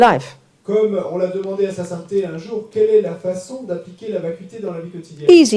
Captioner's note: French